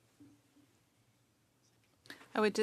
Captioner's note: speaking French